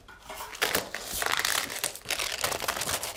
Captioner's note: crackling